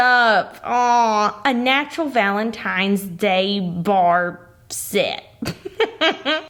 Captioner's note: chuckles